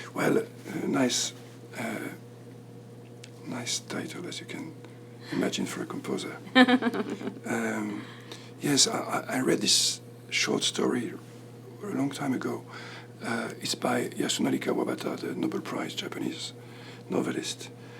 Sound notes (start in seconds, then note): 6.5 laughs